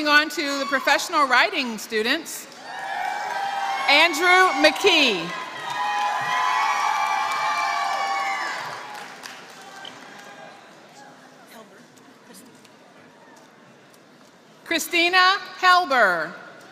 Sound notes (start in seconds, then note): 3.1 applause; 5.3 applause